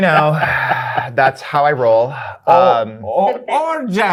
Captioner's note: guy laughing